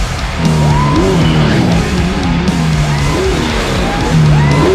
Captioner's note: fans cheering